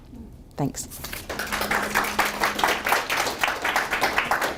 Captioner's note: audience applauding